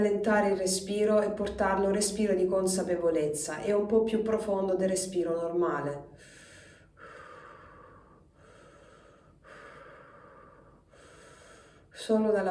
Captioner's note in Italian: sospiri